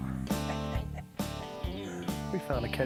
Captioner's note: chuckles